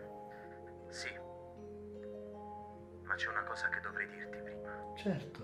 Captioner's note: Giulio on phone